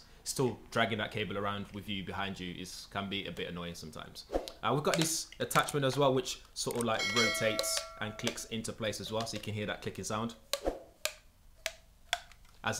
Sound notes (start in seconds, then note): 7.2 device clicking; 10.7 whooshing